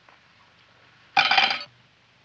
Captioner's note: cutlery clattering